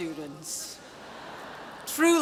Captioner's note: audience laughs